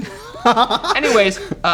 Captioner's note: laughs